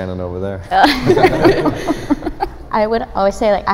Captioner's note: giggles